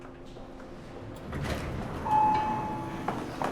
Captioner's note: elevator dings